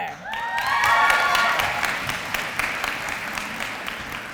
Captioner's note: applause